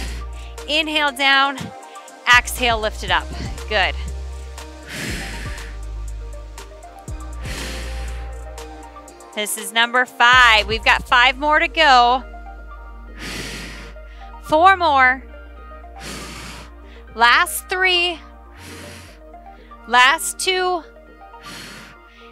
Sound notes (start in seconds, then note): 0.0 exhales; 3.8 exhales; 13.1 exhales; 15.7 exhales; 18.4 exhales